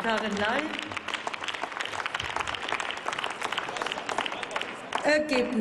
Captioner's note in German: Applaus